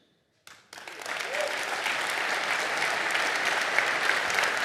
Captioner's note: audience applauding